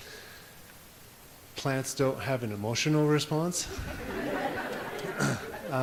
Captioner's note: audience laughs